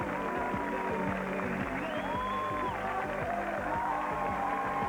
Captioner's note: applause